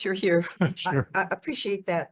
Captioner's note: laughs